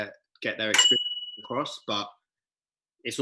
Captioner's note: bell ringing